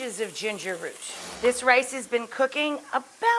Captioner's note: air whooshes